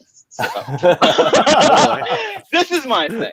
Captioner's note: laughing